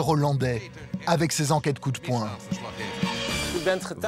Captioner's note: Dutch spoken audio